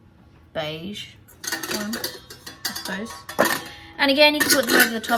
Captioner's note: clatter